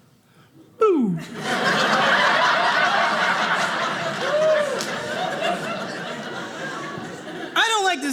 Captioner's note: audience laughing